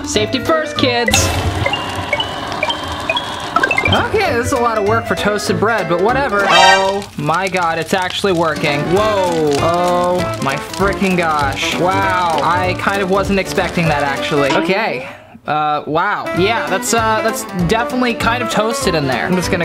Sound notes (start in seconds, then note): 1.5 blip, blip, blip